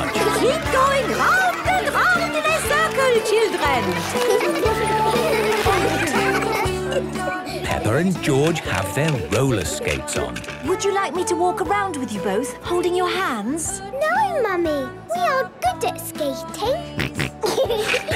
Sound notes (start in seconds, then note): 3.4 laughter; 6.7 giggling; 17.0 snorting and giggling